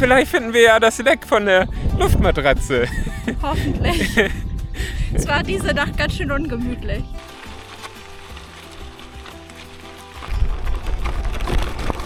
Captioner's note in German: gelächter